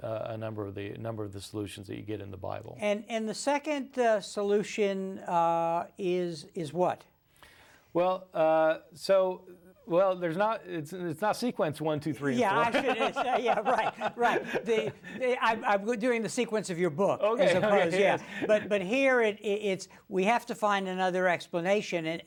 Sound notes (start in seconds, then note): 12.4 both laugh